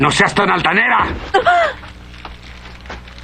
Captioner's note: gasps